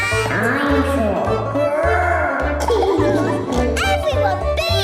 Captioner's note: laughing